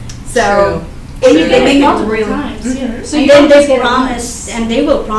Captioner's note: indistinct chatter